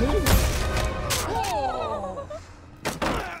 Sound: all groaning

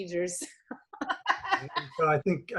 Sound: laughing

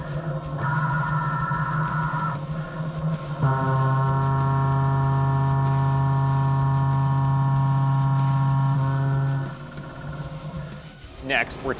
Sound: machining noises

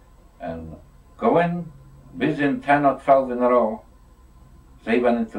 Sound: non-english speech

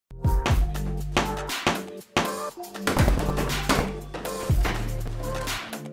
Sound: upbeat music; punching bag thuds

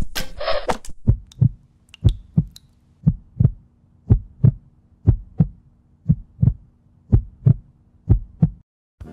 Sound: heart beating

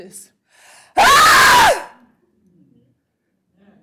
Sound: screams

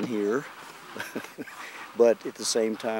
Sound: laughs

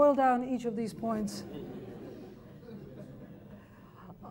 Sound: laughter

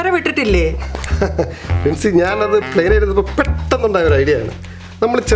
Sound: laughs

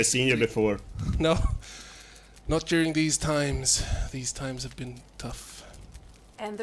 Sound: laughs

